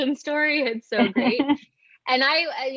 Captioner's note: chuckles